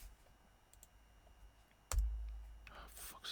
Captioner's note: keyboard clicking